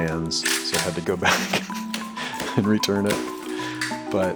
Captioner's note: chuckles